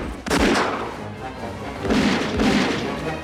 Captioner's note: gunshots Continue; speaking Korean